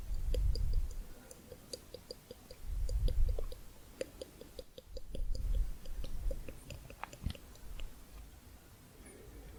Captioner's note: tongue clicking